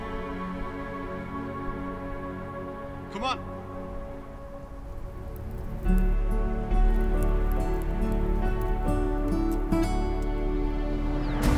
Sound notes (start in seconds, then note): 6.5 fire crackles; 8.5 gentle music